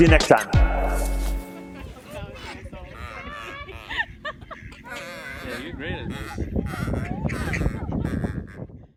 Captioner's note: ducks Quacking